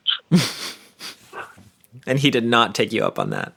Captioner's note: laughs